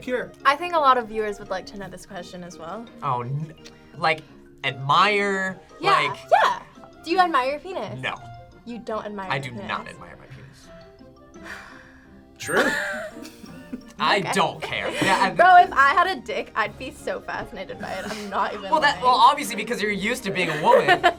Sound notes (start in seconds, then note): 12.4 chuckles; 12.4 laughs